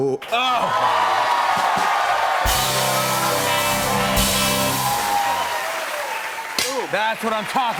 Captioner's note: cheers and applause